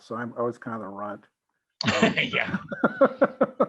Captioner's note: laughs